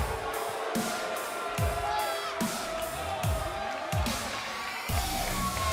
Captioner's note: cheers & boos